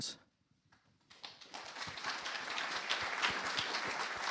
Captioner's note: applause